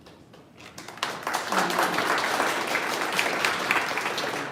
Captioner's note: audience clapping